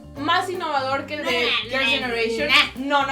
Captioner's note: sassy